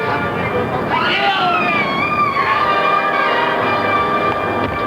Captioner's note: screaming